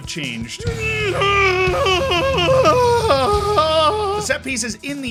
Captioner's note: shouts in rage